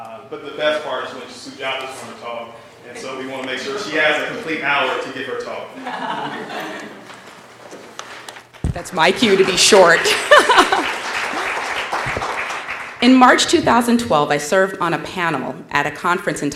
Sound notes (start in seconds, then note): 5.7 laugh; 5.9 applause; 10.0 laugh